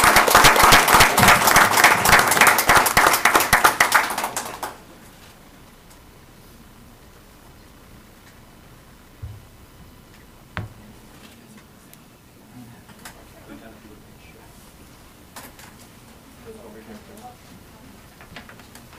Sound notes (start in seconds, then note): 4.0 applause; 4.0 cheering and applauding